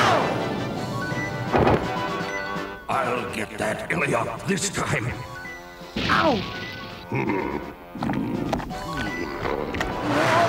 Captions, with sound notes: I'll get that Illiop this time. Ow! (groans) Whoa!